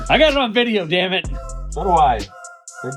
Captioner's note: laughing